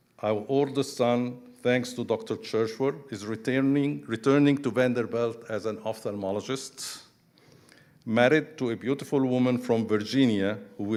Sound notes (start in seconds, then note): none